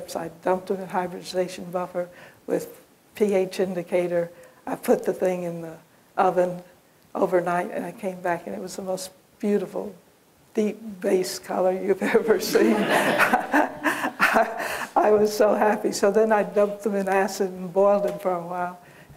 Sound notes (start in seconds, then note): 12.2 laughter